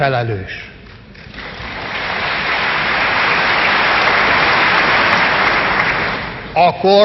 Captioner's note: applause